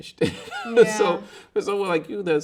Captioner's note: laughing